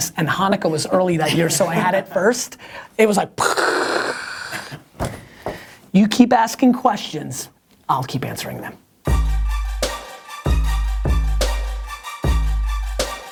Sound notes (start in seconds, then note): 3.4 makes explosion noise; 9.1 hip-hop music